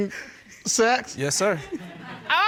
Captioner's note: audience laughing